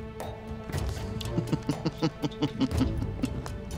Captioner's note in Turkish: Gülme sesi